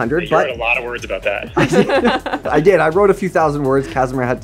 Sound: all laugh

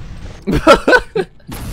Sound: laughter

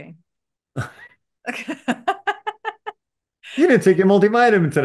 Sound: laugh

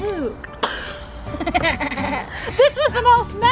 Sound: laughing

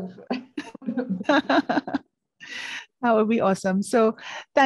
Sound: laughing

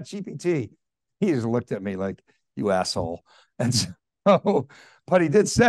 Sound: chuckling

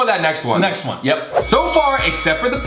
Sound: bell ringing three times

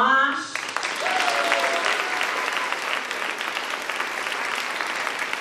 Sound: audience applauding

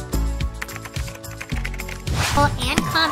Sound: upbeat music; keyboard keys tapping

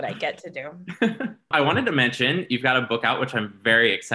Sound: laughs

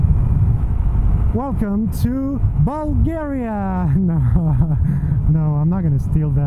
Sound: laughs

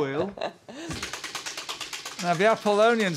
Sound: wheel clacking

